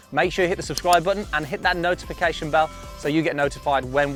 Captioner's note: bell sounds